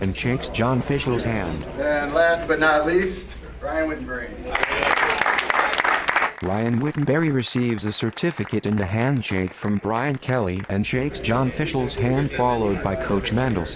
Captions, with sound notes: and last but not least, Brandon Green. (crowd applauds)